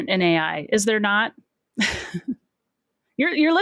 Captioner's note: chuckles